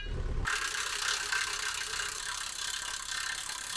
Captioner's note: drill drilling